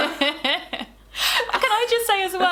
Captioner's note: laughing